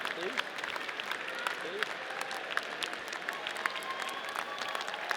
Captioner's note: audience cheering